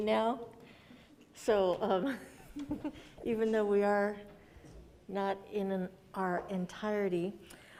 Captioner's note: laughs